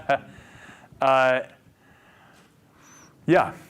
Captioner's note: laughs